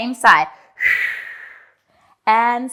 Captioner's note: breathing sharply